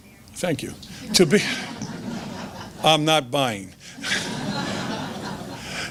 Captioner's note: laughs